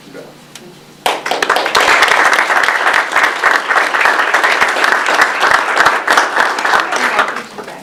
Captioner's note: audience applause